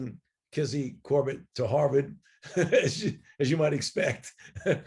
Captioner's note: laughing